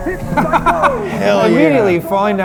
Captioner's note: laughing